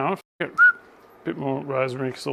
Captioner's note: whistles